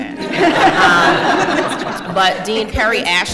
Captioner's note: laughter